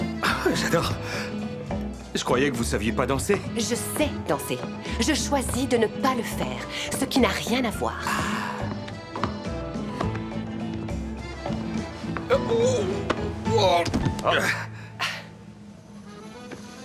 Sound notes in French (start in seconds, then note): 14.2 grognements; 14.2 Sophie soupire